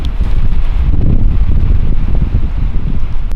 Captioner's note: wind rumbling